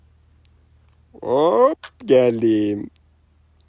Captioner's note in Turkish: Gülme